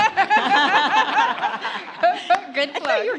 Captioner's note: audience laughs